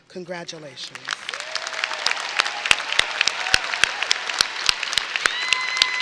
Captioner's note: audience applauding and cheering